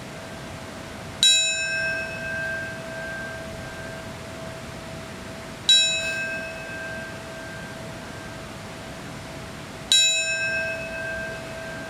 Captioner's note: bell ringing